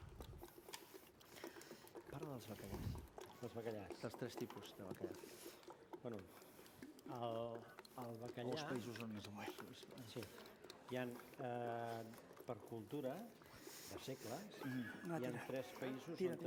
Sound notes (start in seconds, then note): 2.8 non-english speech